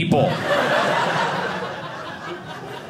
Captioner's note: audience laughing